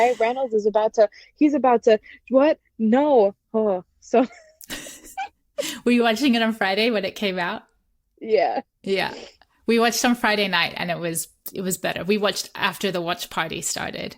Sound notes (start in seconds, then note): 4.2 laughter